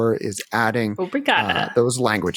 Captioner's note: speaking portuguese